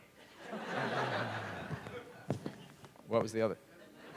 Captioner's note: laughter